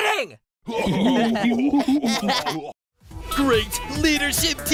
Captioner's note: laughing